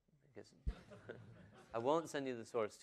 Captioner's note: laughter